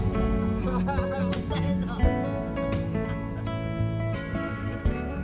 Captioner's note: continuous laughter.. haha